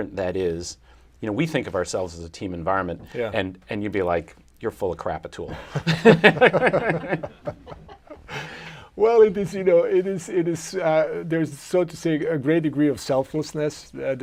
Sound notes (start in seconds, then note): 5.5 laughter